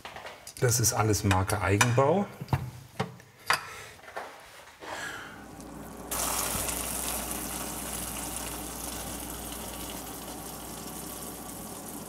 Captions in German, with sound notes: Das ist alles Marke Eigenbau. (Leiser werdendes Zischen)